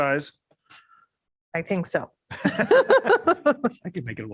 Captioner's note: laughter